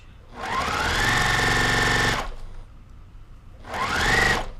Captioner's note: machine whirring